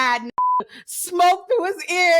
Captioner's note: beep